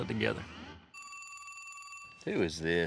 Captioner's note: cell phone rings